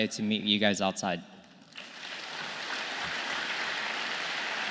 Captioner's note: audience clapping